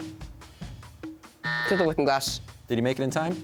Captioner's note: buzzer